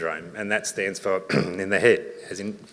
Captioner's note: clears throat